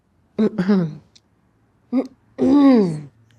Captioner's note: woman laughs; clears throat